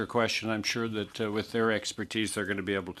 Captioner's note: speaking in French